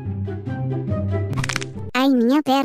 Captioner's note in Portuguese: crack